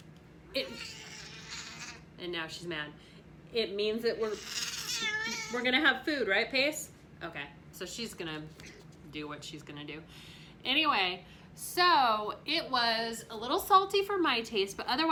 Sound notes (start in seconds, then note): 0.6 cat meows